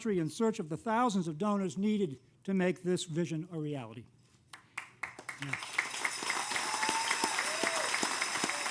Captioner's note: applause